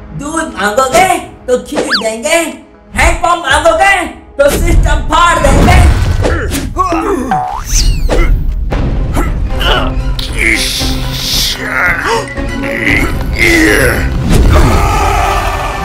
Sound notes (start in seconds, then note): 6.8 bonk